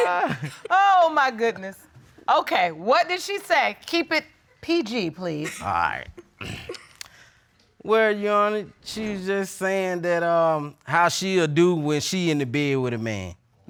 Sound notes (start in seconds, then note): 6.4 clearing throat